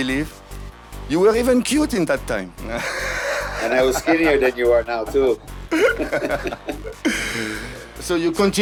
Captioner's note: laughters